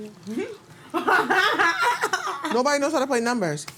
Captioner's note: laughing